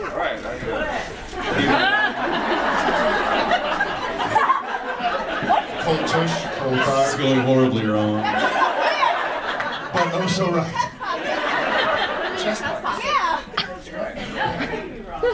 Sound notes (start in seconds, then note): 2.3 audience laughs; 8.3 audience laughs; 11.0 audience laughs